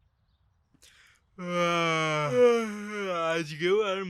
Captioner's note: yawning